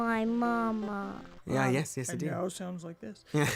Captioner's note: deeper voice